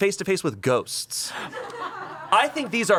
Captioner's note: crew laughs